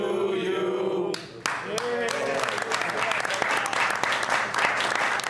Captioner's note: all applauding